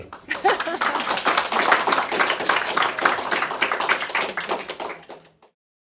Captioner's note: applause